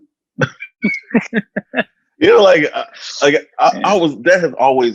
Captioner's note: chuckles